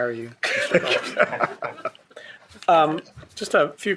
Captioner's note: people laughing